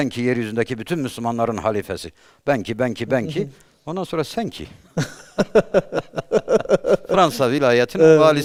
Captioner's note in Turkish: kahkaha